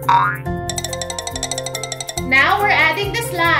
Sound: rattling sound

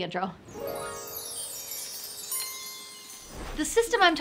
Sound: gentle twinkly music; air whooshes

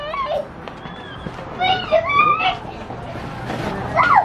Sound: squeals

